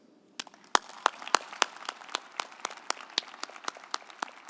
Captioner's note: group applauding